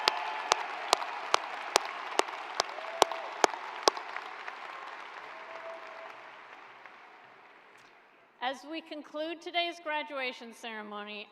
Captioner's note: applause